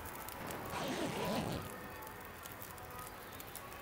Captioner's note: zipper Sounds